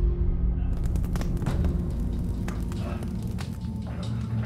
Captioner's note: fire crackling